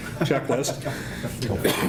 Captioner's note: laughing